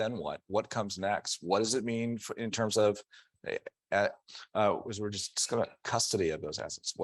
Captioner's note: stammering